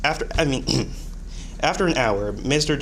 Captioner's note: clears throat